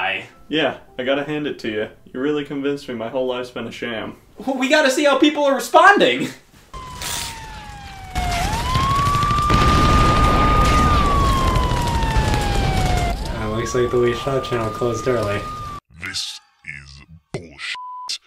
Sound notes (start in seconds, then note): 6.7 apocalypse sounds